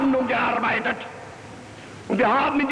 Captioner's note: hitler speaking german